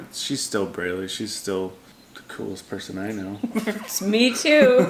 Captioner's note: chuckling